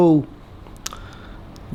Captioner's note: lips smack